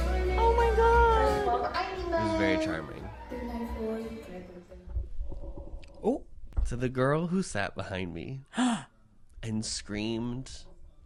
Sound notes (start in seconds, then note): 8.5 gasp